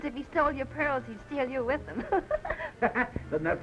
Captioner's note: laughs